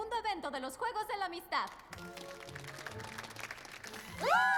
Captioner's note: applause